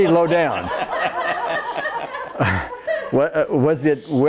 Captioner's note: laughs